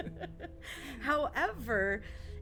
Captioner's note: all laughing